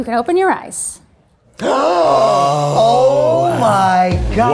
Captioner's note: all gasping